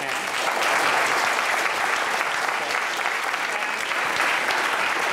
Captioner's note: applause